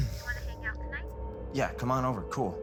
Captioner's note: on phone